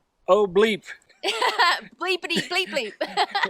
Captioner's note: laughing